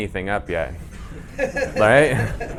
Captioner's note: audience laughing